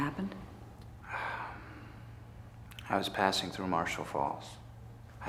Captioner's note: sighs